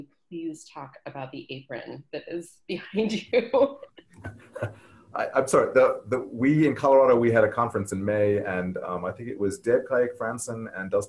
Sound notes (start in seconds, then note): 5.2 laughs